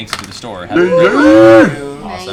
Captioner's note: cheering